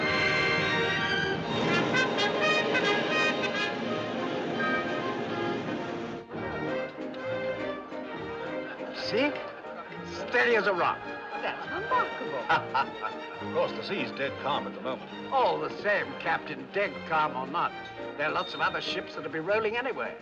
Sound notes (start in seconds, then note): 6.3 Passageiros tagarelando; 11.9 Risos